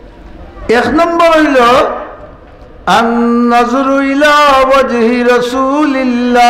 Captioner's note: Arabic